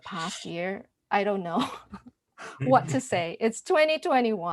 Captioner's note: laughs